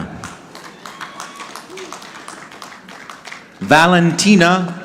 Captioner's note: audience clapping